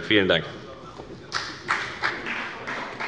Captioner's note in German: Beifall bei der FDP